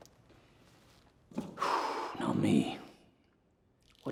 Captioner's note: exhales